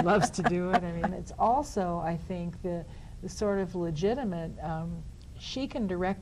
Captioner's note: laughs